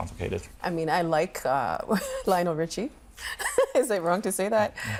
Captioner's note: laughing